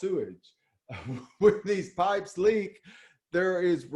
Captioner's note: laughs